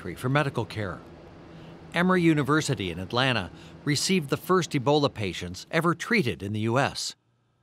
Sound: none

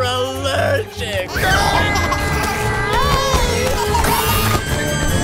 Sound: screaming; babies laughing

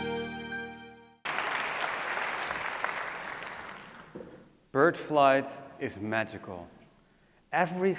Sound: applause

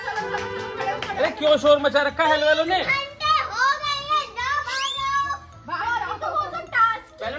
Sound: laughter

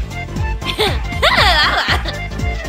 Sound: happy demon noises

